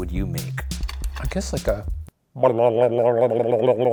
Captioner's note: trilling tongue